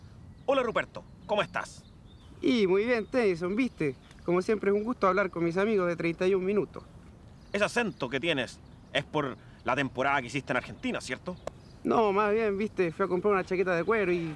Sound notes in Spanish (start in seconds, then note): 3.5 Con acento Argentino